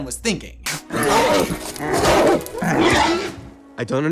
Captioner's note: angry grunts and growls